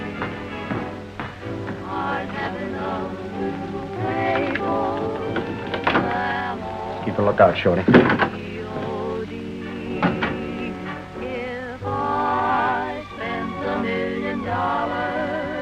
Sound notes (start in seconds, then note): none